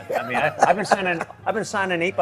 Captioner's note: laughing